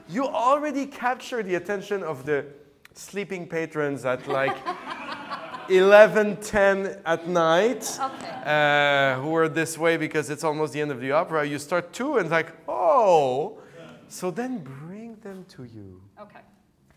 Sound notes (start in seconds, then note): 4.1 all laughing